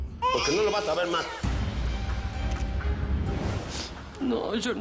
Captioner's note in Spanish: Llanto de la criatura